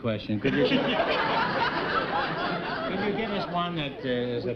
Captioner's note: chuckling